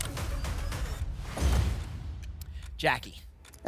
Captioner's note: thump; whoosh